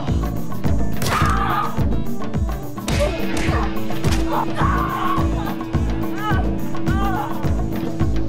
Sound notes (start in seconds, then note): 1.0 woman screaming; 2.8 punches smacking; 4.1 woman screaming